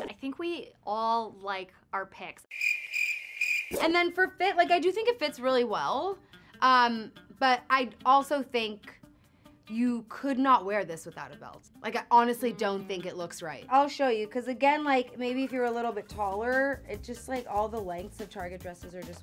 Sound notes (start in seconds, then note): 2.5 crickets chirping